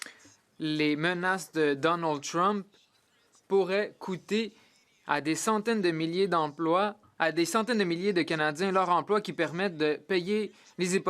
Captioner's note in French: voix de l'interprète